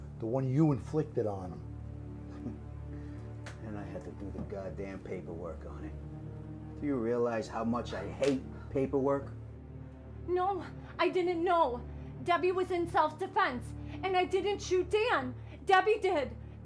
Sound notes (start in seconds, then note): 2.5 Argento scoffs